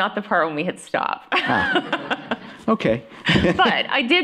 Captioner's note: laughter